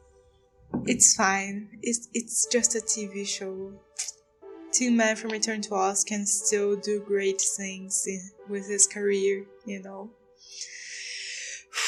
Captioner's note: deep breath